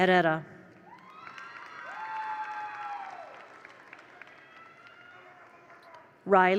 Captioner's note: attendees applaud; attendees cheer